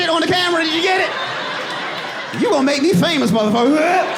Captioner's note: audience laughing; mimicking laugh